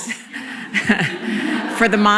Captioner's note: laughter